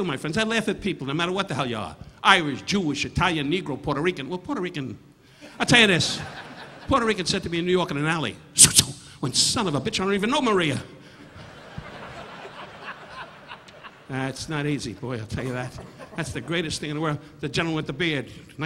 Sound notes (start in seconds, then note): 5.9 audience laughing; 8.5 Don imitating slashing; 11.2 audience laughing